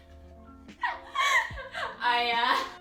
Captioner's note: laughs